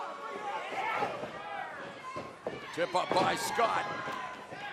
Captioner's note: crowd chatter